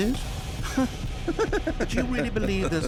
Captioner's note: narrator laughing